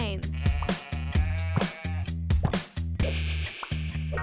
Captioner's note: upbeat game music; sheep bleating